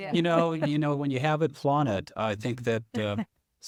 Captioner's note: panelists laughing